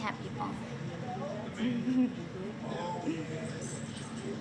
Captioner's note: laughs